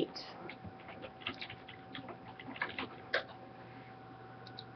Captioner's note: typing